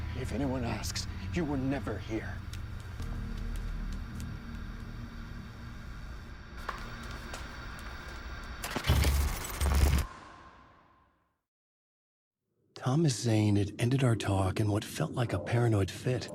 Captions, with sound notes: If anyone asks, you were never here. (suspenseful music) (gun fires) - Thomas Zane had ended our talk in what felt like a paranoid fit.